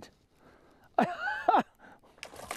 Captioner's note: laughter; splash